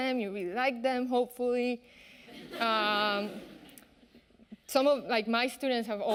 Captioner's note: audience laughing